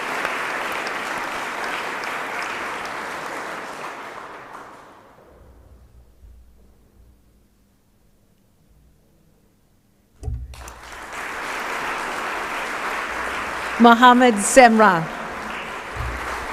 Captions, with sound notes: >> Darcy McGauley-Bartlett. (Applause)